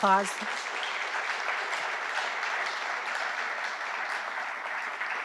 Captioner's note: audience applauding